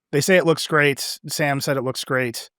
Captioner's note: none